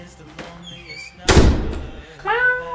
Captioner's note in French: porte qui claque